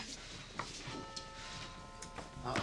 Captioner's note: doorbell rings